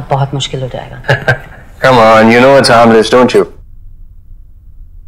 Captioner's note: Chuckles